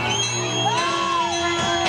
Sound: shouting

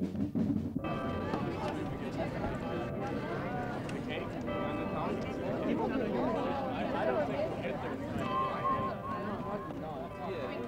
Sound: marching band drum beat; ambient crowd noise, church bells toll

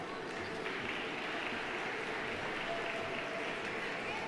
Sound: audience applauding

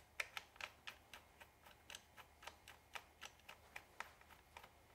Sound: screwdriver whirring

